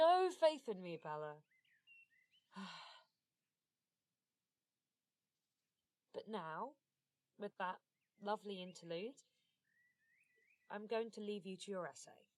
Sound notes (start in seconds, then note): 2.5 nyx sighs